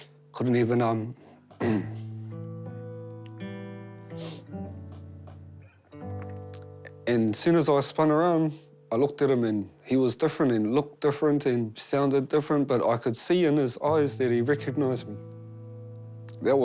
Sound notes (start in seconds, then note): 1.5 clears throat; 4.1 sniffles